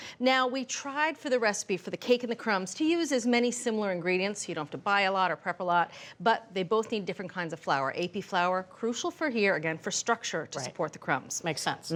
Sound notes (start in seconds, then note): none